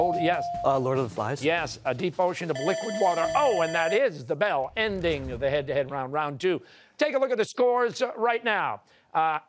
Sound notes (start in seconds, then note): 2.5 bell rings